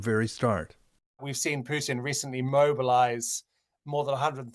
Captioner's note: speaking russian language